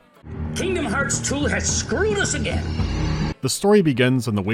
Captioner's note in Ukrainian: з награним невдоволенням